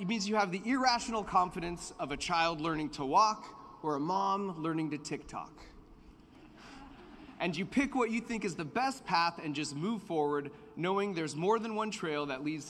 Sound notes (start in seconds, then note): 6.3 laughter